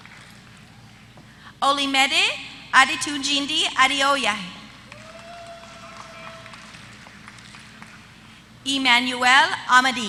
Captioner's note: applause